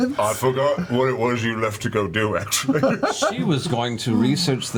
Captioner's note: laughs